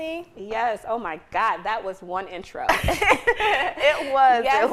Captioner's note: laughs